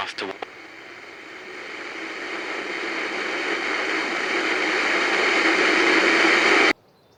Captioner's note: radio noise builds